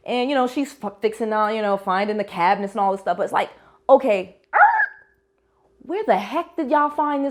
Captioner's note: skreetch